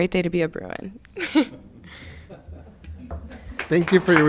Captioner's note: laughs